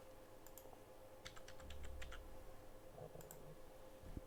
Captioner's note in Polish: stukanie na klawiaturze